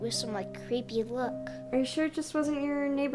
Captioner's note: none